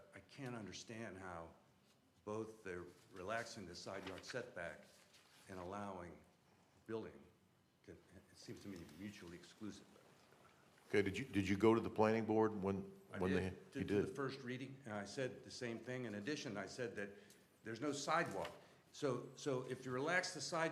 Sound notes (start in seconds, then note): none